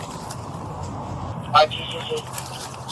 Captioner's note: radio chatter